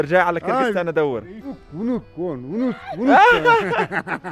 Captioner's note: speaking in Kyrgyz